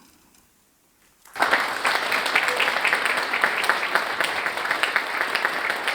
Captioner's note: applause